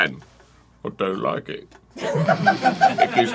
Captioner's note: arin mimicing michael caine